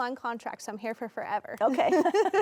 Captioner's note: both laughing